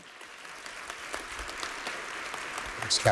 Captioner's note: applause